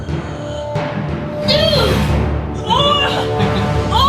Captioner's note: dramatic orchestral music; groans